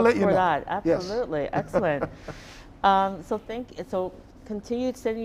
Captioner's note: chuckling